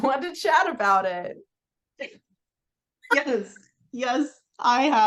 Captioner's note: laughs